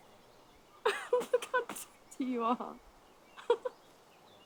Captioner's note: laughs